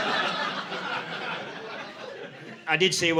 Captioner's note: audience laughing